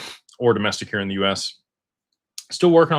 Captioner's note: snorts